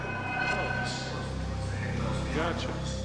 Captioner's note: speaking faintly